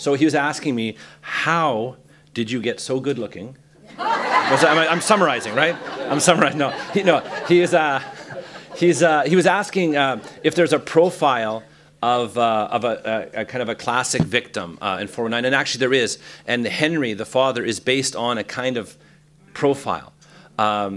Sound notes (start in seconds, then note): 3.8 laughter